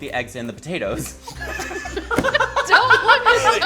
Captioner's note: laughing